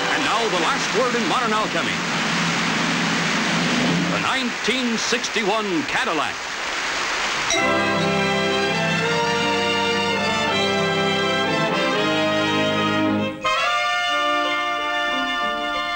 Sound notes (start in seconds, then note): 0.0 lively fanfare music; 2.8 crowd applauds; 7.4 slow romantic music